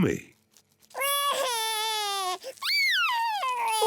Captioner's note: cries